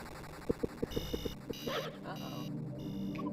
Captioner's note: mysterious music; alarm buzzing